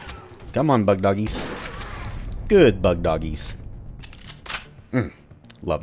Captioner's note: mag tap